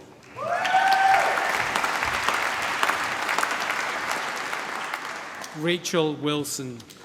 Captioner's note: cheering, applause